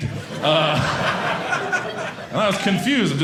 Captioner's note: audience laughing